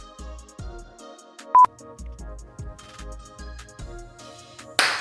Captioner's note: optimistic music; beeping